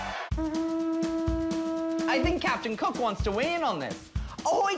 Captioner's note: horn